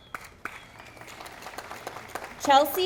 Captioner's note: audience applauding